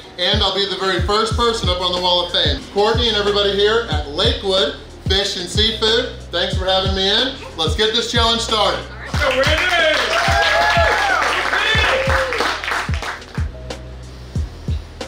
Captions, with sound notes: and I'll be the very first person up on the wall of fame!! Courtney and everybody here at Lakewood Fish and Seafood, thanks for having me in!! Let's get this challenge started!! [Cheering]